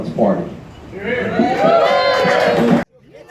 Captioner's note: cheers